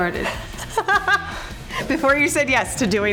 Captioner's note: laughs